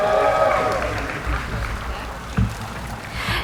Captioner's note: applauding